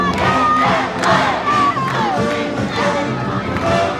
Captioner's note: cheering